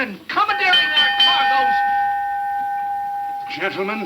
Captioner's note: bell clanging